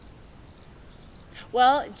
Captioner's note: insects chirping